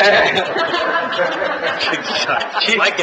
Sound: laughter

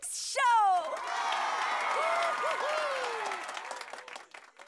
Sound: cheering

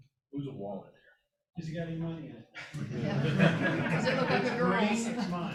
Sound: laughter

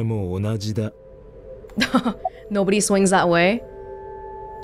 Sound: chuckles

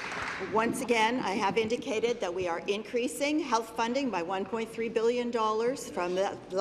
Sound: applause

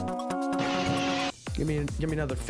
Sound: buzzer

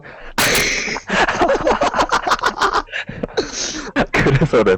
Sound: laughter

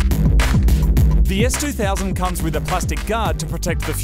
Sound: voice over

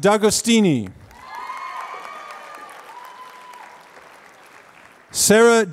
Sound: applause

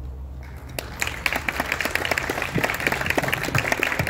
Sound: applause

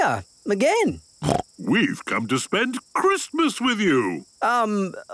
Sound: snorting

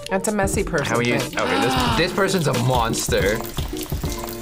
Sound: gasps

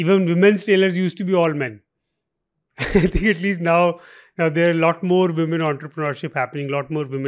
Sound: chuckles

